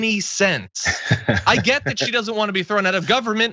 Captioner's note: laugh